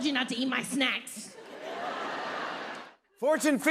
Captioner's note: laughter